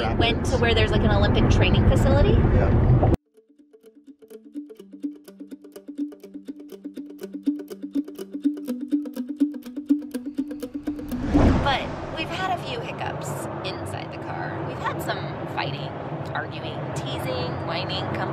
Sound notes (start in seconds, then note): 3.5 upbeat music; 11.0 air whooshing